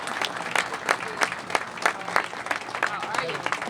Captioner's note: applause